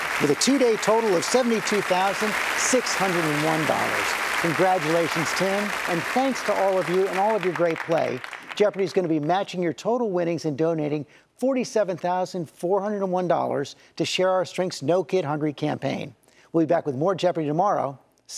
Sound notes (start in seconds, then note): 3.8 audience applauding